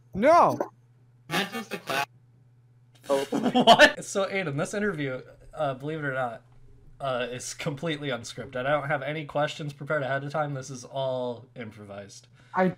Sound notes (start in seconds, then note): 3.1 laughter